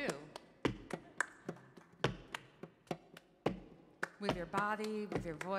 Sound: rhythmic clapping; rhythmic tapping

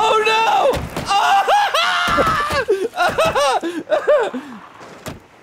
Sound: panicked screaming

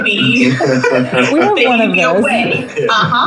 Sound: laughs

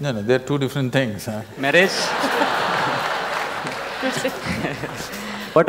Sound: laughter/Applause

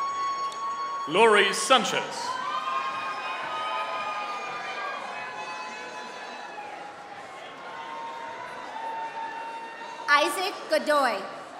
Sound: applause

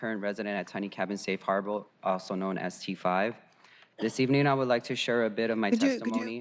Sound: applause

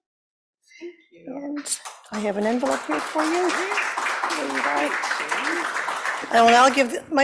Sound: applause

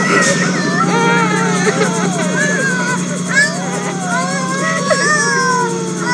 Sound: sobbing, crying and a sigh of relief

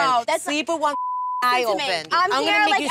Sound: beep

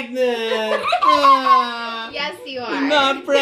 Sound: laughs

